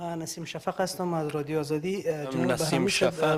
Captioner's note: speaking in foreign language